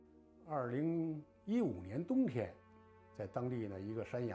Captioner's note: in foreign language